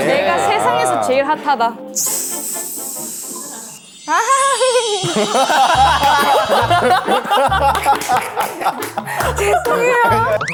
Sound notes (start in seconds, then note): 4.8 unintended laughter attack